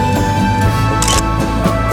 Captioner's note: photo Click